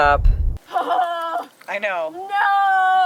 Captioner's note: yells